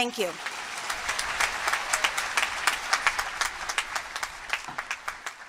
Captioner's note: applause